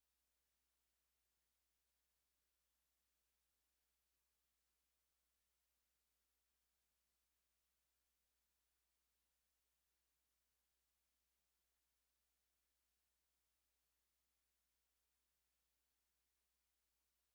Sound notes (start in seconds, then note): none